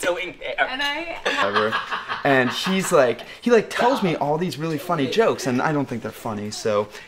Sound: laughter

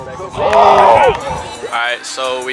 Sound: clapping

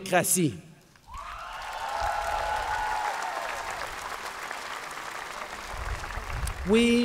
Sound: cheers & Applause

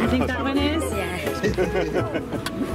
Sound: voiceover

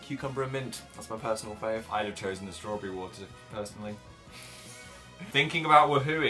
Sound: laughs

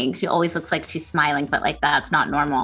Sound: none

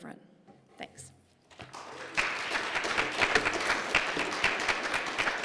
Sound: applause

